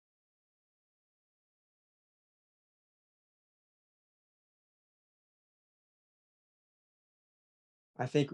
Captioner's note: pause